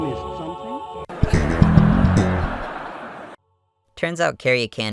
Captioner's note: laugh Track